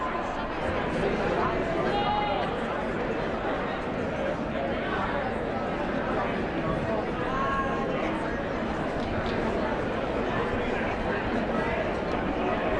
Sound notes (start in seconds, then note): 1.7 indistinct chatter